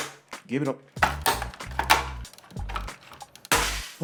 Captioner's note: even more popping ensues